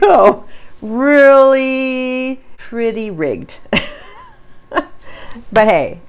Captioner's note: laughs